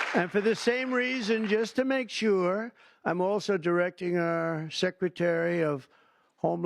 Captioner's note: applause